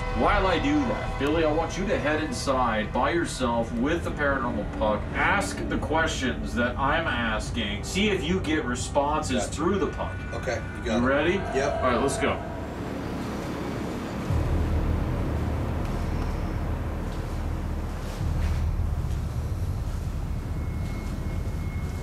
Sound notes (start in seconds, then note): 13.1 ambiant background sounds